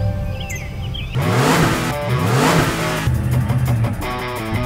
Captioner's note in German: motorheulen